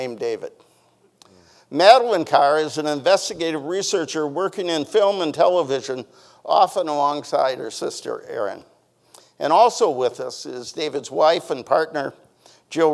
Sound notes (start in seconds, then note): none